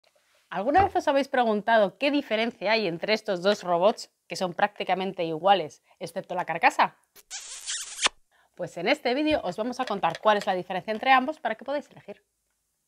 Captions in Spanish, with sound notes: ¿Alguna vez os habéis preguntado qué diferencia hay entre estos dos robots que son prácticamente iguales, excepto la carcasa? (Sonido de beso) Pues en este vídeo os vamos a contar cuál es la diferencia entre ambos para que podáis elegir.